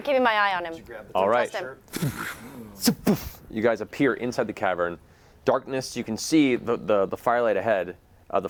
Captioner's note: poof